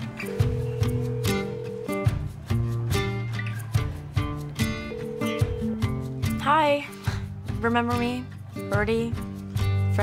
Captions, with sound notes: (phone ringing) Hi. Remember me, Birdie?